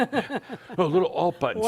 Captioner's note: they chuckle